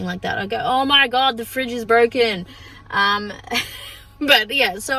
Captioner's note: laughs